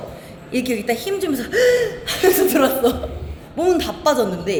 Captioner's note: gasp